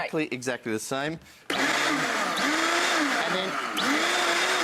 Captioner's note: blender hums